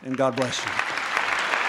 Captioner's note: applause